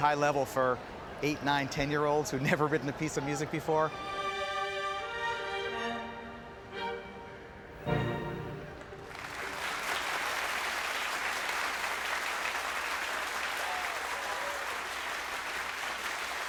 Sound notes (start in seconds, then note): 3.9 orchestra music; 8.7 audience applauding